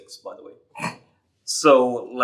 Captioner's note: chuckles